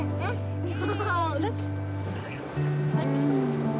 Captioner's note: chuckles